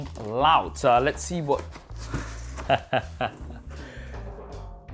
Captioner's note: laughs